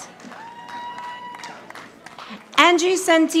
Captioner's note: audience applauding